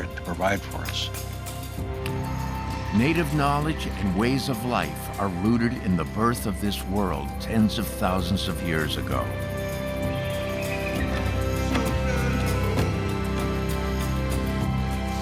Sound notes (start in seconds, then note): 8.7 eagle screeching; 10.8 chanting in Native language